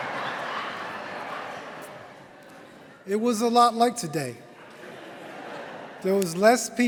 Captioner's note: laughter